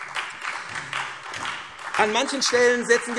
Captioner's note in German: Beifall SPD